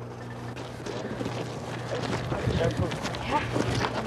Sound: chattering

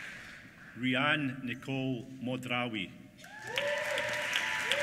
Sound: applause

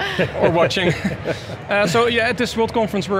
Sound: laughs

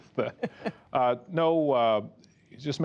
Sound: laughter

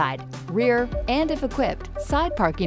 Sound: PDW beeping

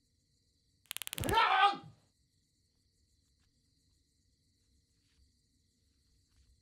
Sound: cattle prod crackling; Leroy yelling

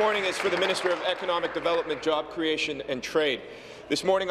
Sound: applause

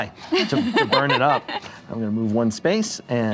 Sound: laughing

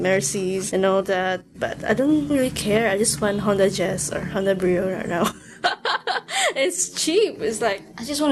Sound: laughs

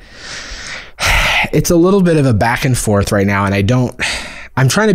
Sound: sighs

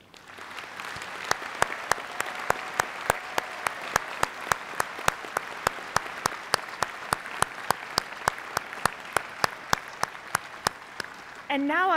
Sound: applause

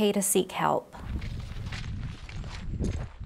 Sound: footsteps on gravel

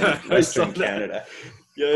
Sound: laughs

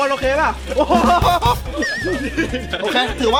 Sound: laughing

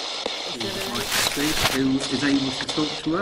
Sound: screen crackling

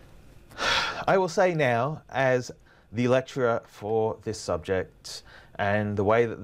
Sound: sighs

